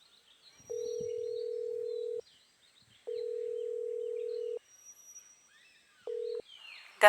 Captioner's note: phone ringing